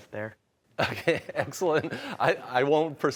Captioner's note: laughing